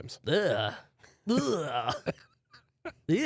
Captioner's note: groans